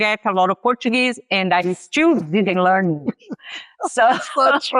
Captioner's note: laughs